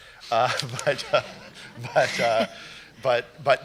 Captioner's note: laughter